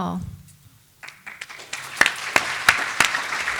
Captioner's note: applause